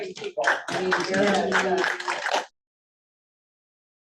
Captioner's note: crowd claps